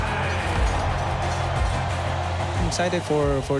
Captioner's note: cheers and applause